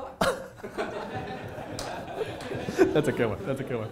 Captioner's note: laughter